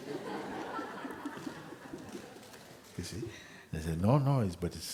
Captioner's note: laughter